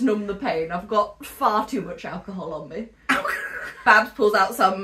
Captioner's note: laughs